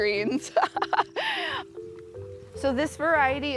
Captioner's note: laughs